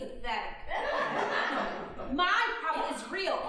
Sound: audience laughing

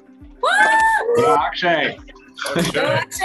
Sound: cheering

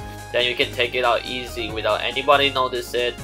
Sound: none

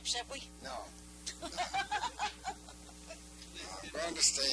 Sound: laughing

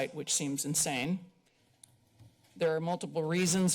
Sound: pause

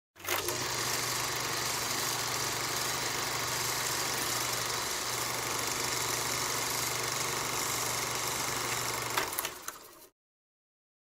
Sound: film reel sound effect

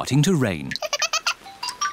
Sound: giggles

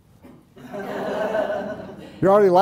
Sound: audience laughing

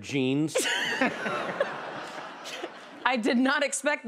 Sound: laughter

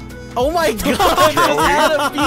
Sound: laughing

